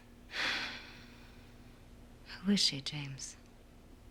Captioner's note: sighing